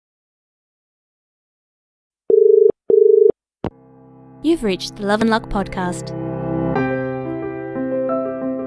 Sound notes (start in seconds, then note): 2.8 dial Tone